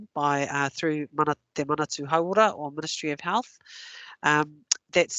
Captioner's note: non-english